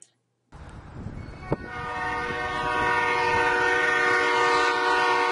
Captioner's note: train horn